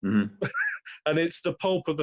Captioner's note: laughs